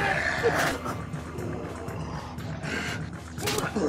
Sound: squelching

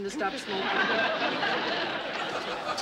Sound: laughter

